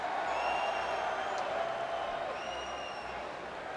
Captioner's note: crowd cheering